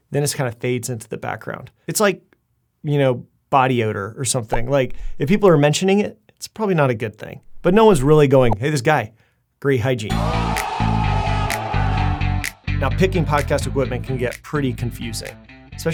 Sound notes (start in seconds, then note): 10.1 crowd cheering; 10.1 upbeat music